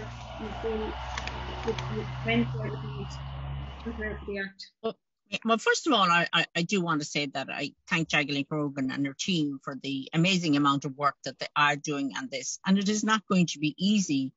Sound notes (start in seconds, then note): 0.0 sound distortion